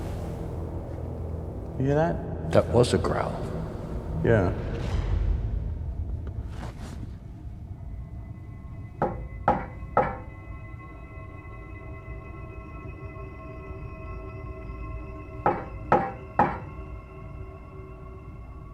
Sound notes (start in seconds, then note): 4.7 suspenseful music playing; 9.0 knocking; 11.0 suspenseful music playing; 15.4 knocking